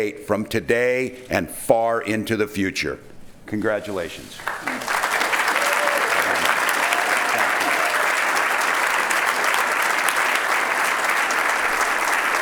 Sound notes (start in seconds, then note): 4.4 applauding